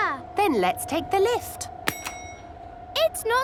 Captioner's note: lift pings